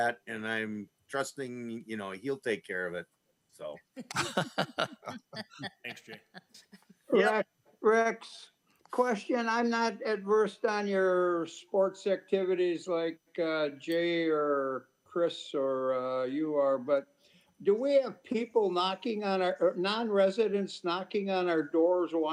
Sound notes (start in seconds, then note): 4.0 trustees chuckling